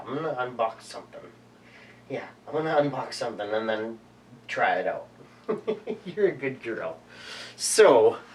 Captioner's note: laughter